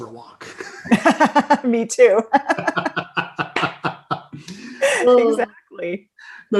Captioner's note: laughing